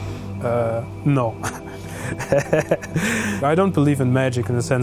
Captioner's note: laughing